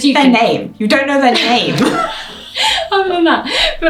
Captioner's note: laughs